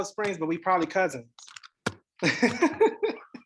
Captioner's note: laughs